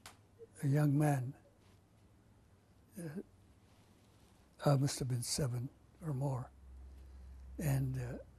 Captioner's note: pauses for 3 seconds